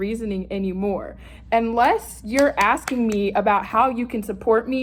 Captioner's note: claps